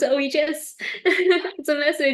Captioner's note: laughs